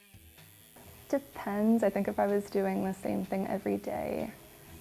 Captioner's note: tattoo gun buzzing